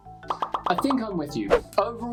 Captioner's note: emojis popping